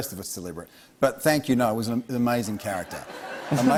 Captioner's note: laughter